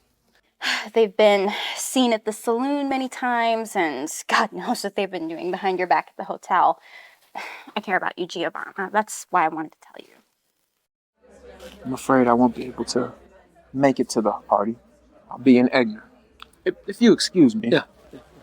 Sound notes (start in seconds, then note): 11.2 indistinct chatter